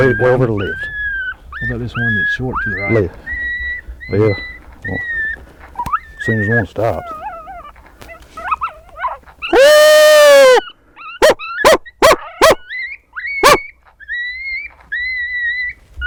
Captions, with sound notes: - Way over to the left. - How about this one that torque to the right? - Left, left. Seems he won't stop. (animal call)